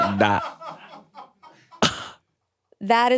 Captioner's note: crew laughing